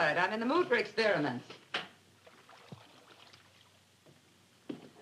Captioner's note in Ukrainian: none